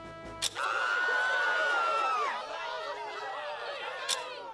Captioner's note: people screaming